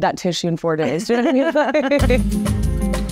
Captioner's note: laughs; bright music